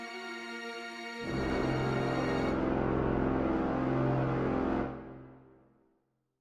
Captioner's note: USS Elsa Of Arendelle blows her horn